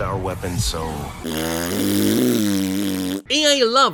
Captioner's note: blowing raspberry